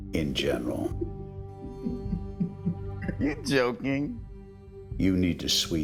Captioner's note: chuckles